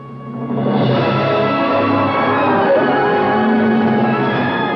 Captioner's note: cattle Mooing